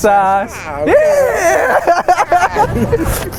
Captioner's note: laughter and joy